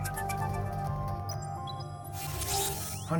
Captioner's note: digital chime